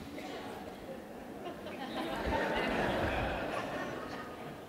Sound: audience laughing

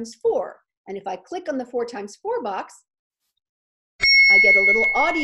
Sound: computer dings

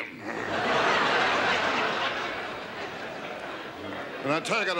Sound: audience laughs

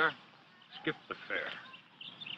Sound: pops

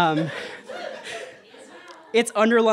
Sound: audience laughter

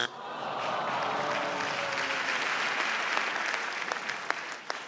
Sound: buzzer beeps; audience sighs

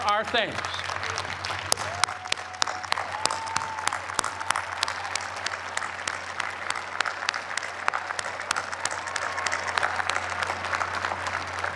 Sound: cheers and applause

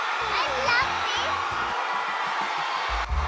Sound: thunderous applause

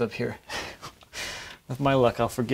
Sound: chuckles

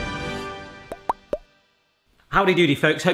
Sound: triumphant music; bubbles pop

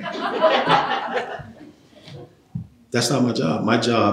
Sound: laughter

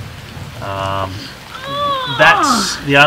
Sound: groans

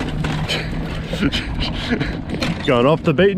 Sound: bike rattling; laughing

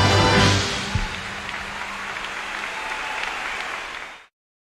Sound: audience cheers; audience applauds

